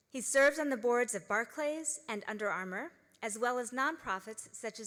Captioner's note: none